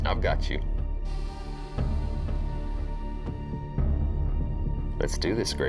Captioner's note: drone whirring